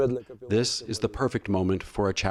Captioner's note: through translator